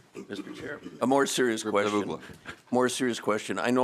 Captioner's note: laughter